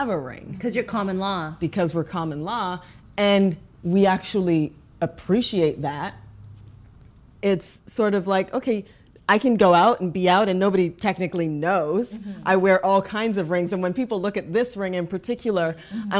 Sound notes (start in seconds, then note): none